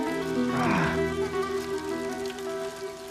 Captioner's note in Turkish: Nefes sesi